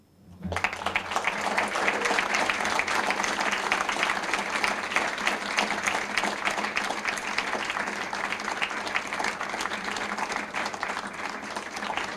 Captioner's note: applause